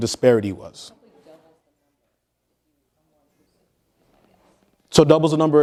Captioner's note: audience member speaking quietly